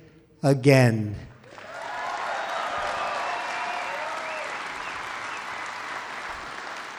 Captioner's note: applause